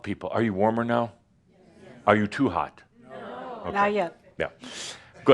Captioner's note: audience says “Yes”